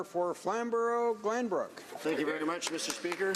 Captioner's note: some Applause